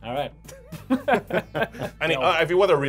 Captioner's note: all laughing